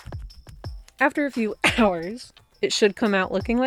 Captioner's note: cough